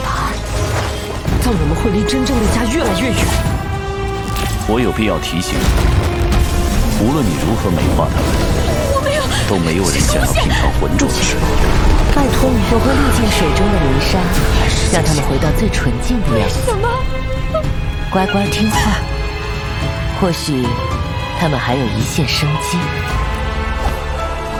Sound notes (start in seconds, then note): 17.4 why... *sob